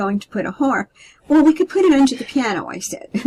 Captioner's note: laughter